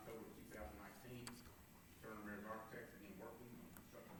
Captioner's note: faintly speaking